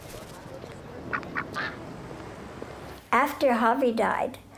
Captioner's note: duck quacking